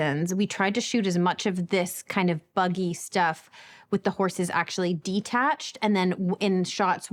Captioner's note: none